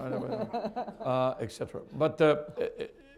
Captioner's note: laughter